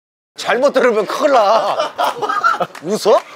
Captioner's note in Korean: 웃음